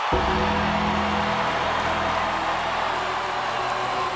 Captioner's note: bell tolls; crowd cheers